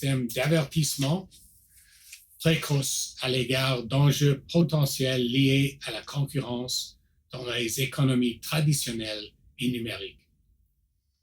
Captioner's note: repeats in French